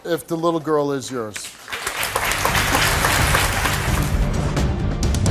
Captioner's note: audience applauds